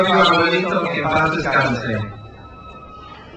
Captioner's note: speaks in foreign language; crowd cheers